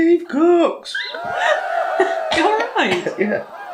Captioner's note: cheerin